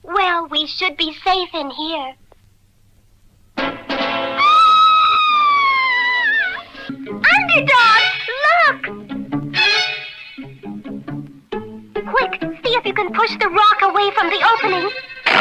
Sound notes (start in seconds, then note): 4.3 Sweet Polly Purebred Screams; 15.2 Underdog struggles & sputters